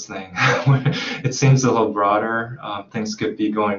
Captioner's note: chuckles